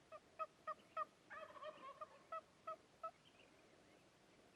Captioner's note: turkey calling